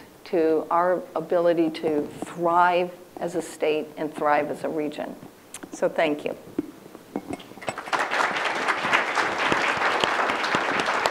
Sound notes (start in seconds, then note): 7.6 audience applauding